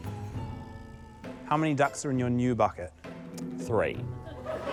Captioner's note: laughter